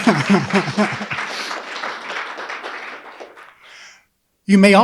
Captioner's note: audience laughing; audience applauding